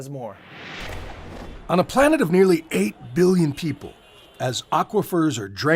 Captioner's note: voice-over